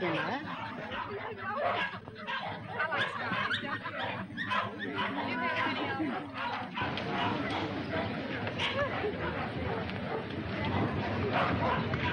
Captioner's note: dogs barking